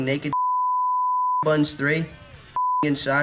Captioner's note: beep